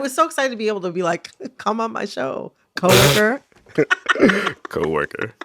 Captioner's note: laughter